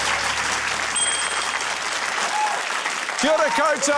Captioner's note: ding!